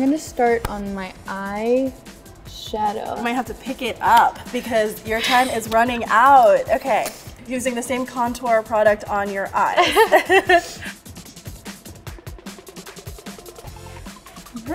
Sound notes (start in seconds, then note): 9.7 both laugh